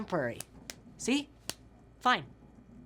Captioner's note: hand slapping